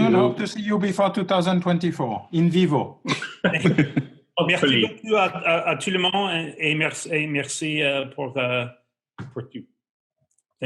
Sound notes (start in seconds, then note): 3.0 laughter; 5.7 speaking french